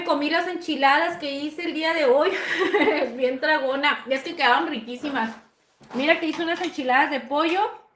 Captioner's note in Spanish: risas